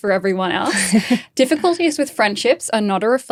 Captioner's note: laughing